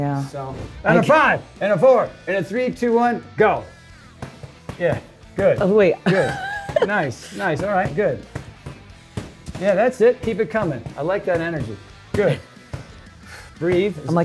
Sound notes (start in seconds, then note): 5.1 thumping; 6.0 laughs